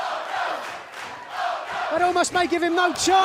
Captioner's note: fans chanting